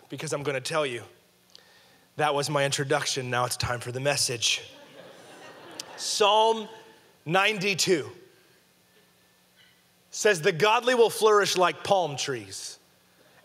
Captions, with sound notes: Because I'm gonna tell you. That was my introduction, now it's time for the message. (audience laughing) Psalm 92 says, "the godly will flourish like palm trees